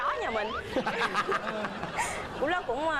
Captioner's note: laugh